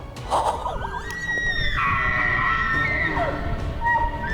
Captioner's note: upbeat music continues; breathy laughs; elk bellows